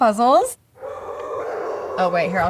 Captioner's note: dogs barking